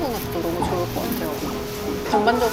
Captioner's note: pit-a-pat